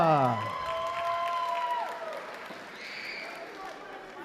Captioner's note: applause